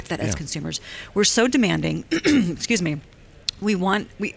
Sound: clears throat

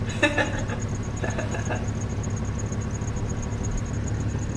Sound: engine humming; insects chirping; Billy laughing

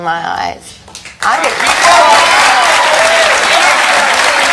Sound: audience claps

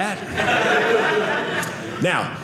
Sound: audience laughing

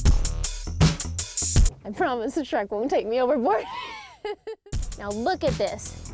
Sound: giggles

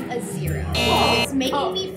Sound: buzzer

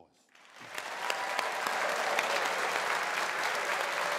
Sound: all applauding

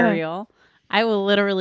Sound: groaning

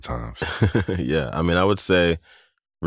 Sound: laughter

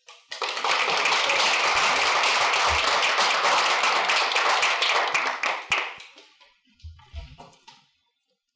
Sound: applause

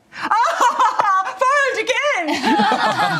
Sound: laughter; laughs

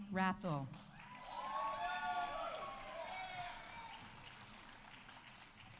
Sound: audience applauding; audience cheering

